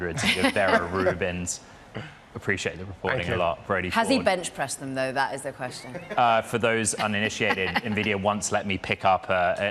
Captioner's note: laughter